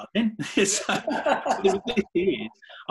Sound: laughing

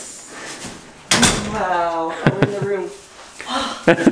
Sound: sighs

